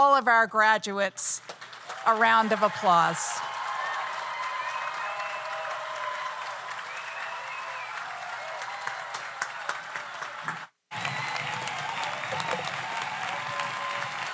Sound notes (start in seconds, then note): 3.2 audience applauds; 3.2 audience cheers